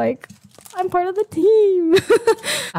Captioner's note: disgusting giggle